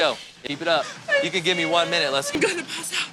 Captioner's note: whimpering